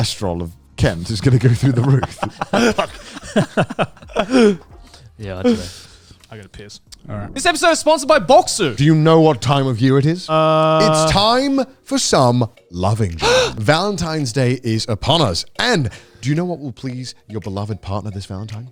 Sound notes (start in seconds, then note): 1.0 laughing; 7.3 scene whooshes